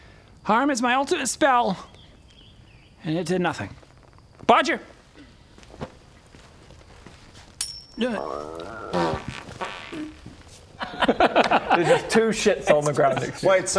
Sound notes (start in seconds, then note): 7.6 flick; 8.0 grrrrrr; 8.1 pfffpt